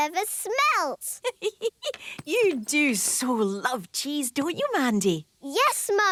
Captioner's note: giggling